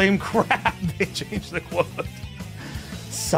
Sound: laughs

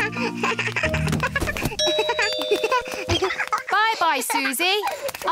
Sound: giggles; rings doorbell

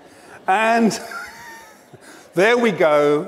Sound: laughs

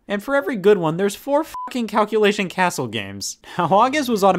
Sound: beep

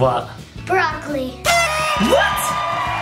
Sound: horn toots

